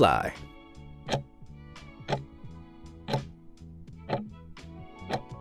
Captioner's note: timer ticking